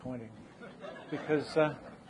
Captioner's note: audience laughing